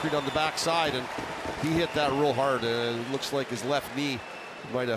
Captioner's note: booing